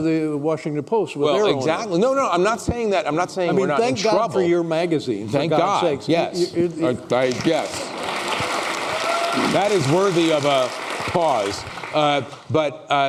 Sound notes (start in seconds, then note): 7.1 applause